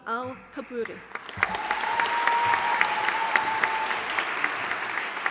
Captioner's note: audience applauding